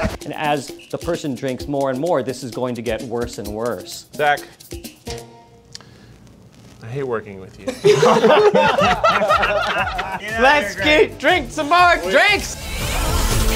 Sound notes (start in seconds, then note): 7.7 laughing; 13.3 upbeat music